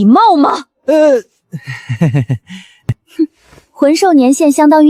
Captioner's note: chuckles nervously